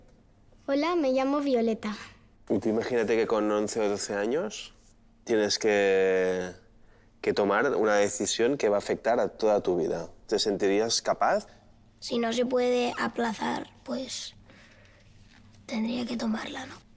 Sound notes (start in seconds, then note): none